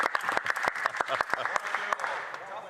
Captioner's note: some Applause